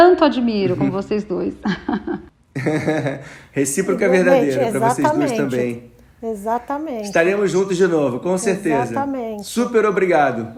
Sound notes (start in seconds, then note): 2.2 laughs